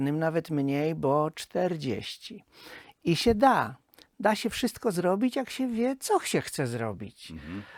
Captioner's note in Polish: parsknięcie